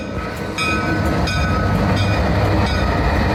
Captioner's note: loud Alco rumbles